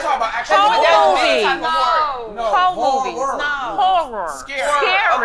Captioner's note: group chatting